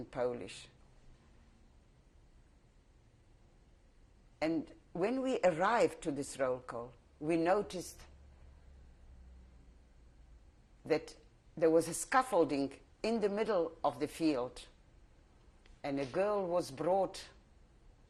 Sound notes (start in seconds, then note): 8.3 pauses for 3 seconds